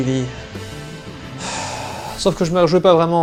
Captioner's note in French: Soupir